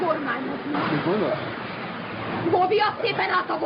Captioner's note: speaking spanish